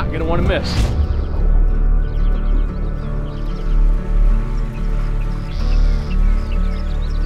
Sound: gentle music; crickets chirp

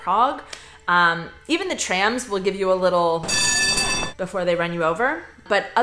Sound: ring

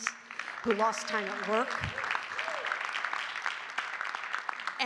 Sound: audience clapping

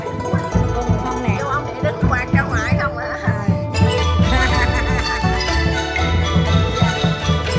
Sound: everybody laughed

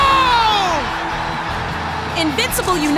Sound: crowd cheers

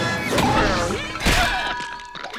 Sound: grunting

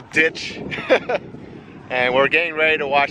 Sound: laughter

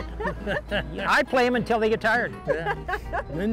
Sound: laughing

